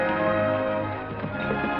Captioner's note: bell